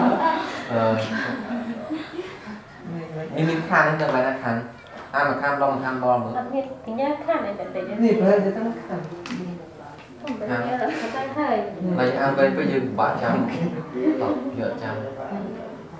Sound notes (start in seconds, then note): 7.2 chattering